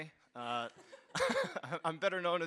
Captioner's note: all laughs